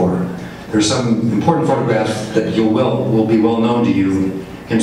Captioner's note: none